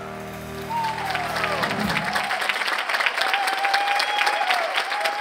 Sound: audience applause

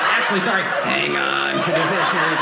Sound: robotic voice

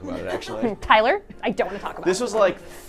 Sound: all laughing

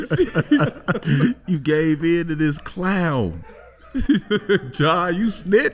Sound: laughs

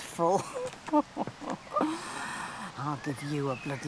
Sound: laughs

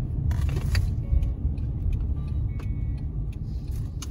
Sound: car blinker on

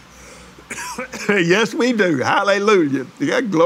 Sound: laughs

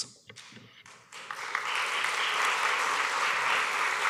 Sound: applause

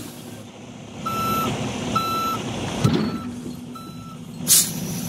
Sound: beeping

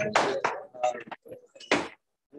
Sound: background chatter

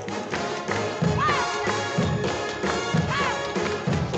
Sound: kathy shouts

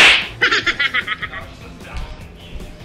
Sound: slapping sound effect; manic laughing

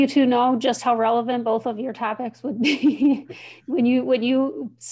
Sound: chuckling

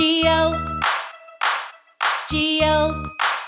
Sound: clap; clap

